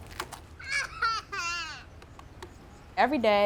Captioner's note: girl giggling